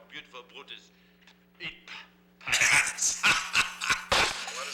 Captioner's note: laughs